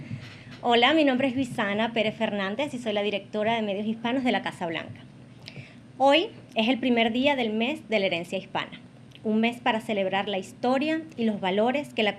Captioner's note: speaks Spanish